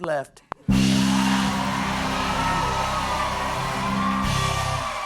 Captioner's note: cheers and applause